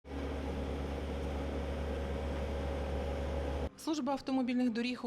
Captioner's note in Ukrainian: звук двигуна